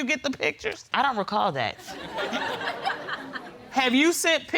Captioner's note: audience laughs